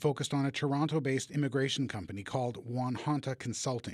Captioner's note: speaking chinese